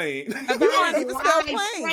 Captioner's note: laughing